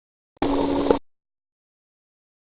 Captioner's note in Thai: เสียงเอฟเฟกต์